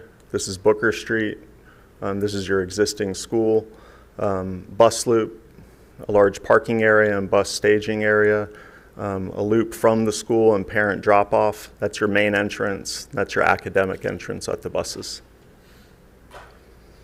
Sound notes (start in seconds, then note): none